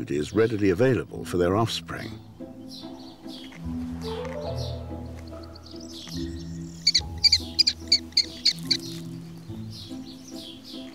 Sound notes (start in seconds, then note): 7.0 bird chirping